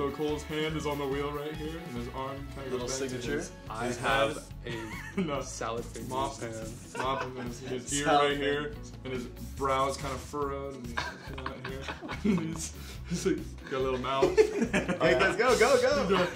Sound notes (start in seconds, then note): 6.6 giggling; 10.9 all giggling